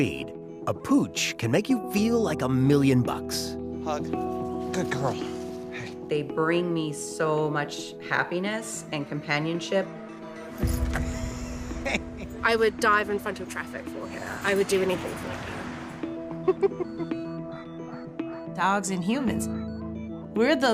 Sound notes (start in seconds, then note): 11.1 laughs; 16.4 chuckles